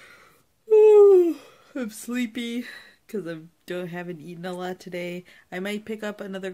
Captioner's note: yawns